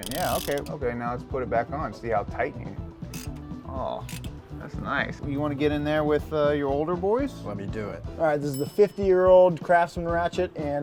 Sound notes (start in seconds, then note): 4.0 ratchet teeth clicking